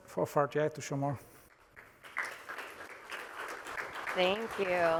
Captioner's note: applause